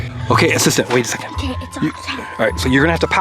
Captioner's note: whispers